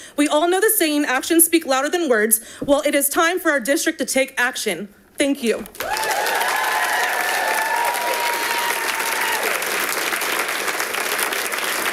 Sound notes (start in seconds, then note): 5.7 audience applauding